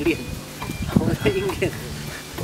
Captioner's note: laugh